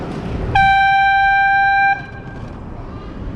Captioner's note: airhorn